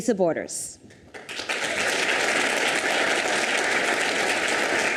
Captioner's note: audience applauds